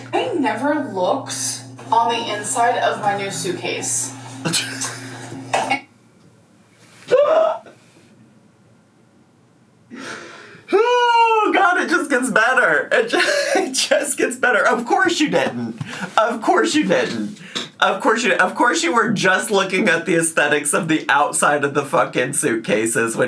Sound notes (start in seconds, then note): 4.4 laughing